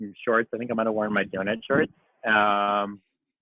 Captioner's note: murmurs